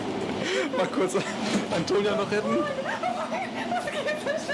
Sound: she whimpers in fear

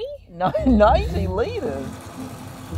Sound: laughs

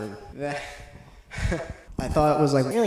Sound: awkward nervous laugh

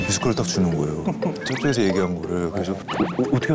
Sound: laughing

